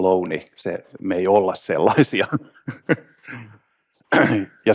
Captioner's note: laughs